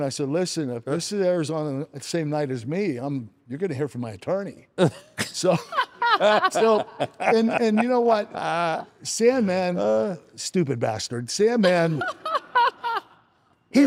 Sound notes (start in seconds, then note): 5.4 people laughing